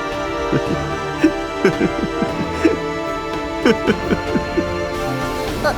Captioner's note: laughing lol